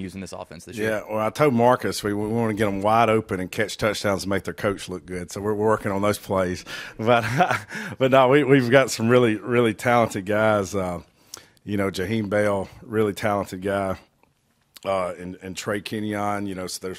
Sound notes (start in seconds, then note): 7.0 laughing